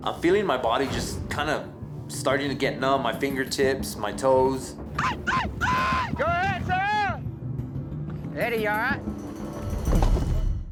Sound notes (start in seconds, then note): 5.0 cowboys shout encouragement; 6.9 tense music; 9.9 thud